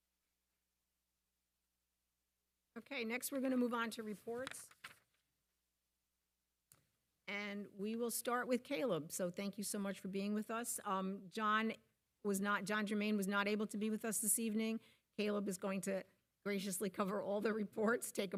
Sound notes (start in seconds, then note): none